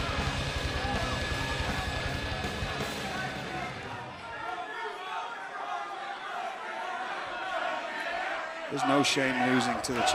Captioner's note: crowd chatter